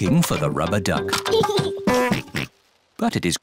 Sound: giggles and oinks

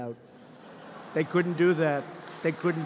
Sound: laughter

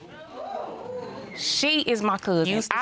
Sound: audience exclaiming

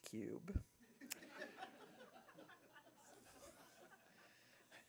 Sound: audiences chuckles

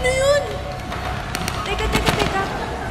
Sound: rushing footsteps

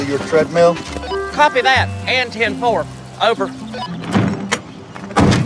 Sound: walkie-talkie chirps

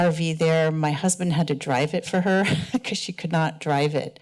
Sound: laughter

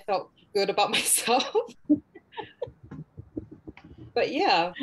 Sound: laughs

